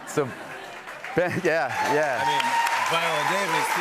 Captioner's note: cheering and applause